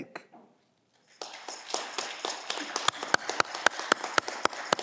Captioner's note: audience clapping